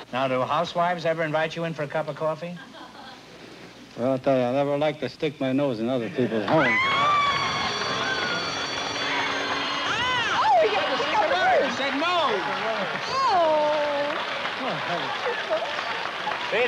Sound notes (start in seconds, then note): 6.9 cheering; 14.0 applause